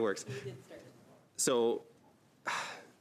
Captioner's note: laughs